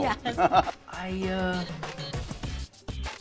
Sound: light laughing

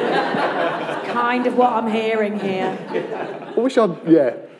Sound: laughter

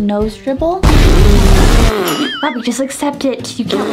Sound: sputters

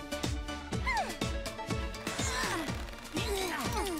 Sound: grunting

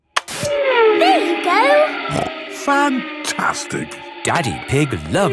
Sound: snorting

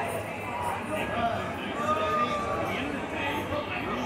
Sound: chattering sound in background

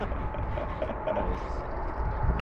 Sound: laughing

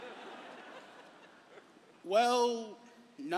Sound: laughter

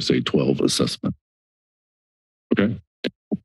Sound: silence

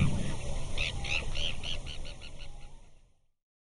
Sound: bird tweeting

